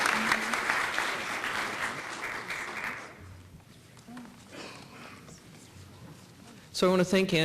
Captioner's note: applause